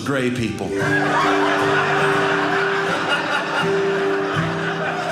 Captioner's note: audience laughing; guitar playing